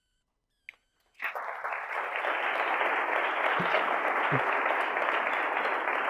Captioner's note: audience applauding